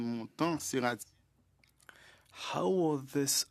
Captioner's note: speaking French